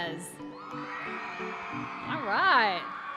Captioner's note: applause and cheering